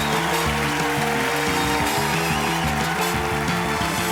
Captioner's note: cheering and applause; theme music playing